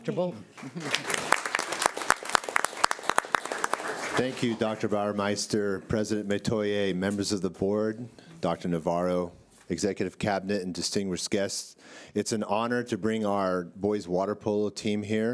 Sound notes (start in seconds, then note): 0.6 clapping